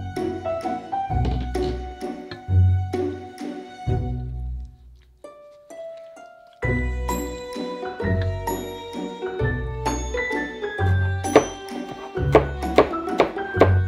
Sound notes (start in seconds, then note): 10.8 knife chopping